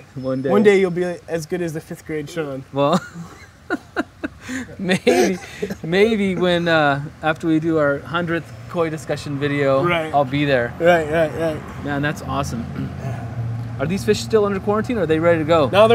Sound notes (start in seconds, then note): 2.9 laugh